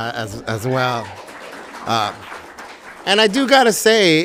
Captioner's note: audience applauding